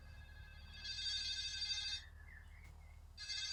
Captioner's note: ringing